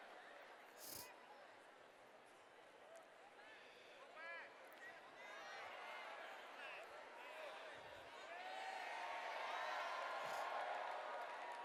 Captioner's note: cheers